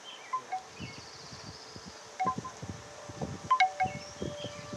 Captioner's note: wooden sticks clanging